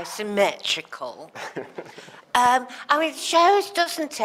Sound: laughs

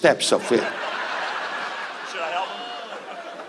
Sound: audience laughs

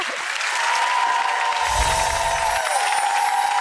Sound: cheers and applause; ethereal music

